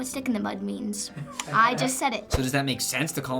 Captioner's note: Finebros laughs